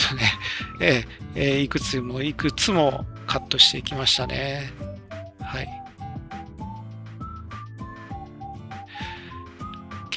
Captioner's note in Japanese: 笑い